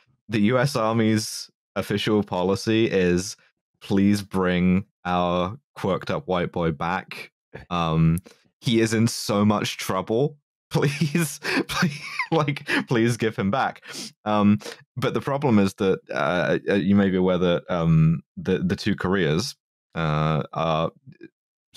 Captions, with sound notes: The U.S. Army's official policy is, "Please bring our quirked-up white boy back. He is in so much trouble. Please, pl- [laughs] like, please give him back." But the problem is that, you may be aware that the two Koreas are